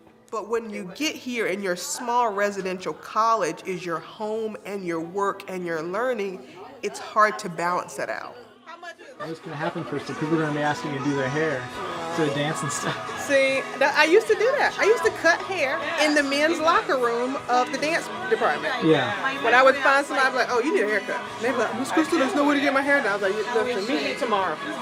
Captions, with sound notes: But when you get here and your small residential college is your home, and your work, and you’re learning, it's hard to balance that out. >> How much is it? >> What's gonna happen first if people are gonna be asking me to do their hair, to dance and stuff. [LAUGH] >> See, I used to that. I used to cut hair in the men's locker room of the dance department. >> Yeah. >> But I would find somebody like, you need a haircut. They'd be like, Miss Crystal, there's nowhere to get my hair done. I was like, look, meet me tomorrow.